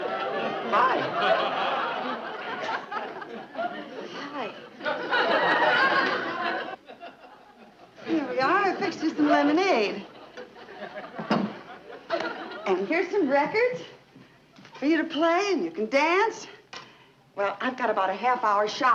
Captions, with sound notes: - Hi! - Hi. (audience laughing) - Here we are, I fixed you some lemonade. (audience chuckling) And here's some records... For you to play, and you can dance. Well, I got about a half hour shopping to do.